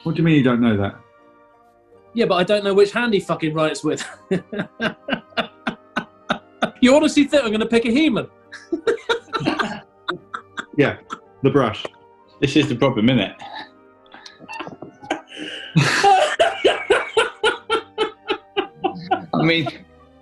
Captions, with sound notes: What do you mean you don't know that? Yeah, but I don't know which hand he fucking writes with. [CHUCKLING] You honestly think I'm going to pick a human? [LAUGHING] Yeah. The Brush. This is the problem, innit? [GIGGLING] [LAUGHING] I mean...